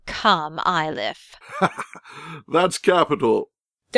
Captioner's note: laughing